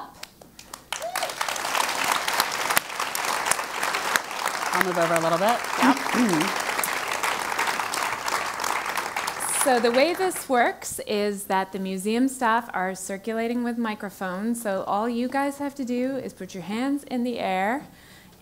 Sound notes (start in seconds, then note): 0.5 applause; 8.6 cough